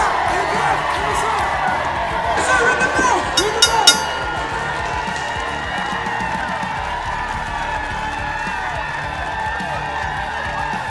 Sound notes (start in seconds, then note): 2.4 bell rings three time; 4.5 crowd cheers with excitement